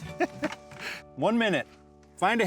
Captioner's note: chuckles